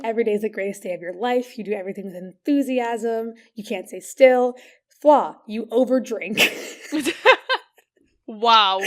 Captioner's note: laughing; laughs